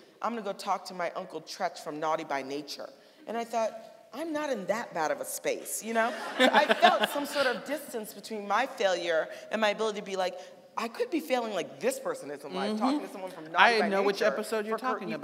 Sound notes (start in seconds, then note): 6.0 audience laughing; 6.0 laughing